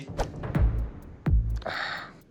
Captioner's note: sighs